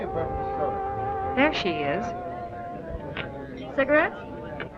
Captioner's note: chattering